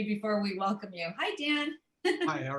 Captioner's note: laughter